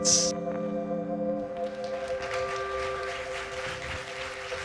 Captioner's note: audience claps